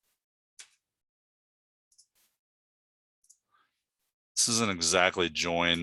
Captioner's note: mouse clicking continues